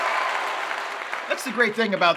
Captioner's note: cheers and applause